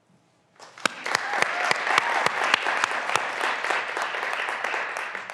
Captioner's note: graduands cheering and applauding